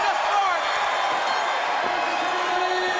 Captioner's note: bell ringing